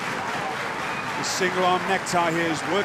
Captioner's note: cheers & applause